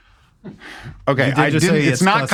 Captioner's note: sighs